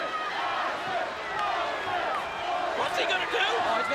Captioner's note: audience chanting